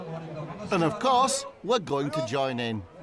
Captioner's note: announcer speaking Korean